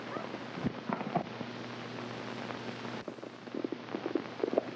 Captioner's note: hooves clopping